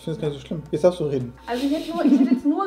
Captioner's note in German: lacht